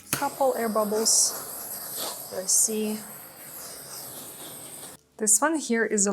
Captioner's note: gadget whirring